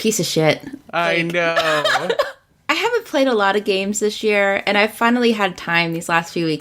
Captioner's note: laughs